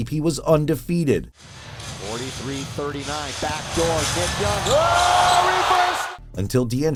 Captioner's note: game audio